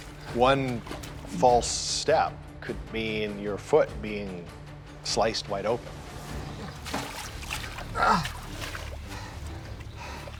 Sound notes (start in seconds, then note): 7.8 grunts